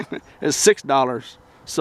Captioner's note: laughing